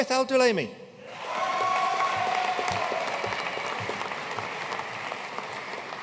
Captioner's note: audience cheering and applauding